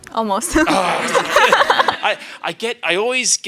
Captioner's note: audience laughs